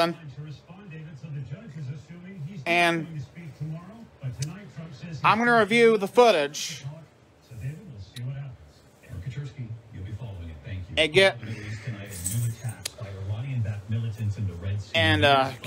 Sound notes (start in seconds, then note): 0.2 TV continues playing in background; 6.8 TV continues to play in background